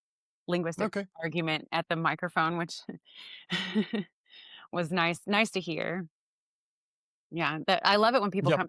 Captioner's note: laughs